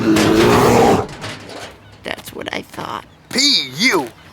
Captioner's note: belching